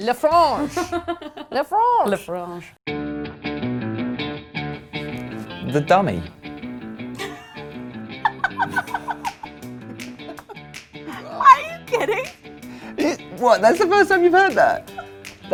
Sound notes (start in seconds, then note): 0.5 laughs; 3.0 lively music; 7.1 laughs